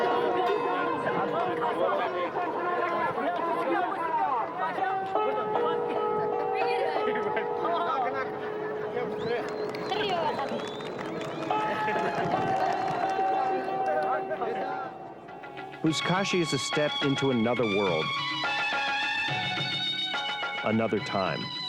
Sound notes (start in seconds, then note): 0.1 people speaking in foreign language; 9.2 crowd applauding; 18.4 upbeat instrumental music